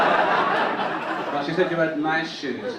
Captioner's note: audience laugh